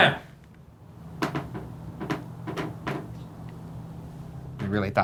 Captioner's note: wood creaking